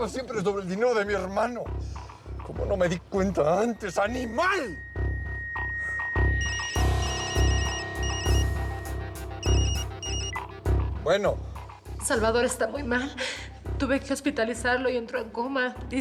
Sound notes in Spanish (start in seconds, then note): 5.5 suena el celular